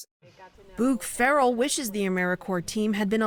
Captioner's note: voice-over